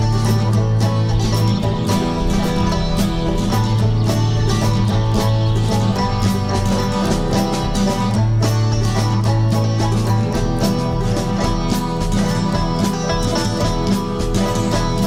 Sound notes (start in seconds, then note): 1.0 many small birds chirping; 13.7 acoustic guitar and banjos playing upbeat bluegrass